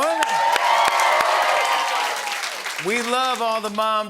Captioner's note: cheering and applause